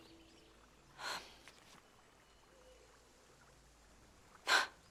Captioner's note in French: gazouillis d'oiseaux, bouillonnement d'eau